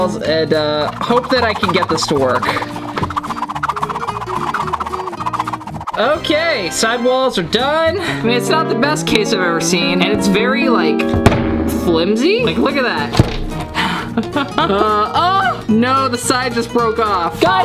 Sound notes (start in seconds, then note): 2.7 pen swooshing; 13.8 laughs